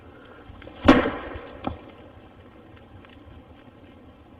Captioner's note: banging